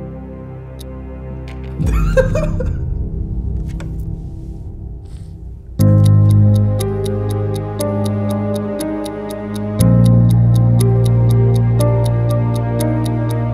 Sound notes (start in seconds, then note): 1.8 both laughing; 5.9 ticking sounds intensify